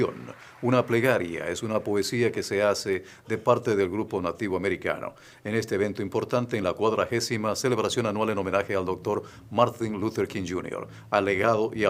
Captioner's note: applause